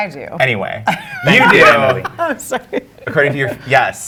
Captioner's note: laughs